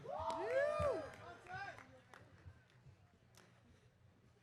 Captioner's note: audience cheering